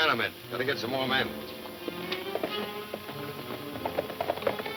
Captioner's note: galloping horses